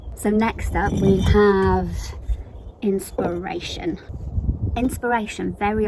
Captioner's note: bricks scraping